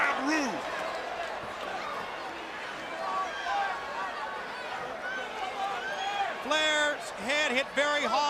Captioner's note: crowd chatter